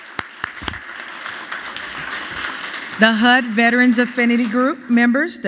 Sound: applause

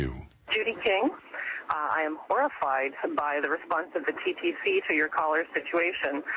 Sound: over telephone

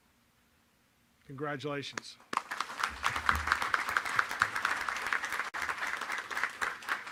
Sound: applause

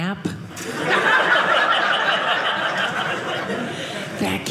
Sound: audience laughing

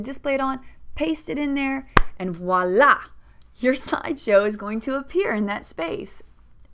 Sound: hand clap

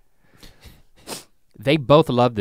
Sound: Rhett sniffles

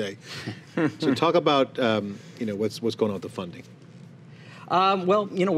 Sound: chuckling

